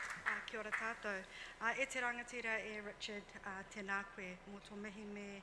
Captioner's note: speaks foreign language